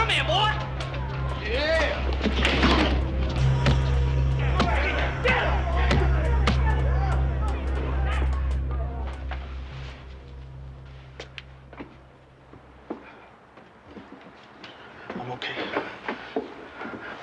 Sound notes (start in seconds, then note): 2.7 Justin thuds; 4.9 foot thudding; 7.3 crowd chattering